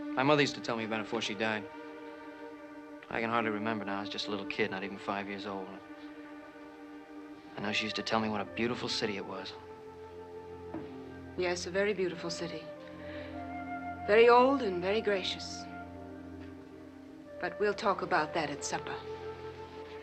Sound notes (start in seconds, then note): none